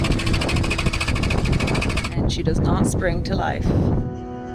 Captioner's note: vehicle engine whirring